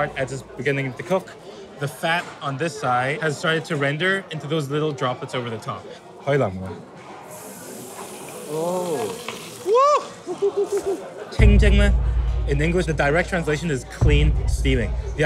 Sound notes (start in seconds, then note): 6.3 speaks in foreign language; 7.3 steam hissing; 9.6 exclaiming; 11.3 speaks in foreign language